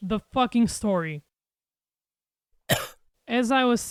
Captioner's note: silence